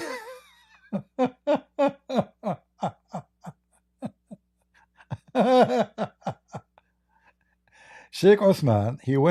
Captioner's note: Ketawa